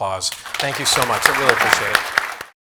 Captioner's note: audience applauds